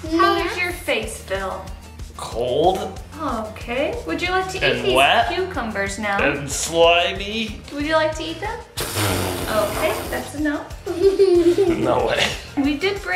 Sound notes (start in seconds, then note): 8.7 blowing raspberry; 10.8 laughing